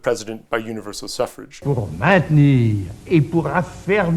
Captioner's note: General de Gaulle's voice